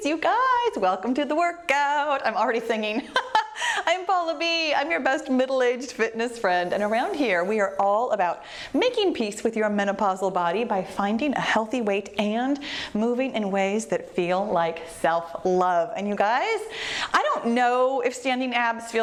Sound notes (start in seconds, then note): 2.8 laughs